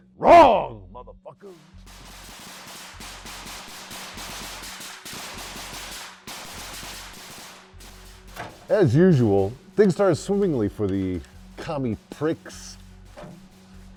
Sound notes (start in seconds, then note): 2.3 gunshots